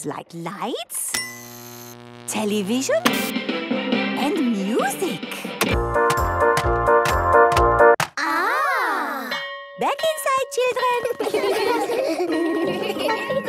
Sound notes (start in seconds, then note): 1.1 light bulb buzzing; 1.3 TV static, show music; 5.6 clicks, music plays; 9.3 school bell